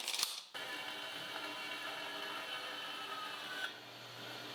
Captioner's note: machine whirs